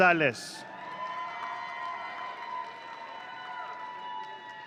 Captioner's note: audience cheering